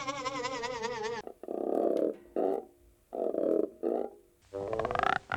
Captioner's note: croaking; croaking musically